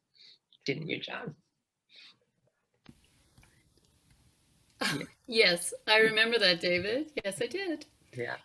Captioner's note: chuckles